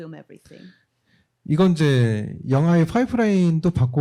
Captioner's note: speaking korean